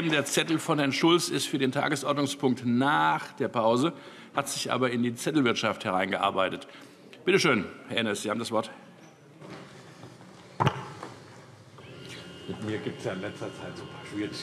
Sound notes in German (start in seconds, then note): none